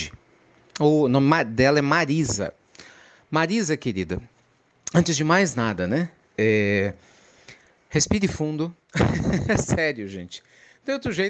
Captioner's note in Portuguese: risadas